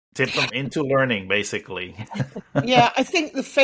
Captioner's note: laughs